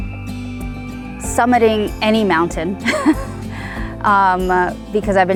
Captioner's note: chuckles